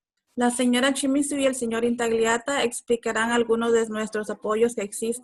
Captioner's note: speaking Spanish